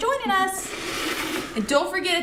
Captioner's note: bucket scrapes table